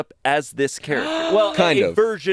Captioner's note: gasps